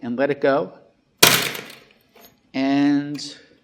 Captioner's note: springy thwacking